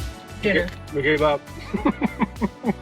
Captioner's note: calm music; laughs